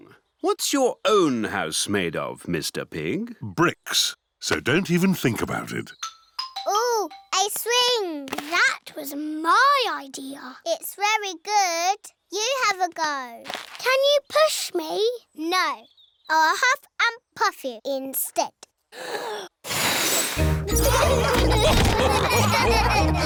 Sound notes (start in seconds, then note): 19.6 blows; 20.6 laughter